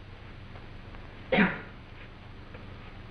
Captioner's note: grunting